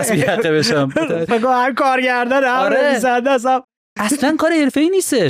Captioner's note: laughs